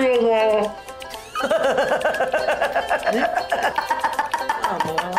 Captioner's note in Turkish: Gülme sesi